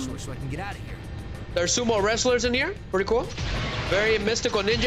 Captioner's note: none